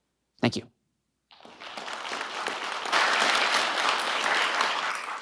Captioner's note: audience applauding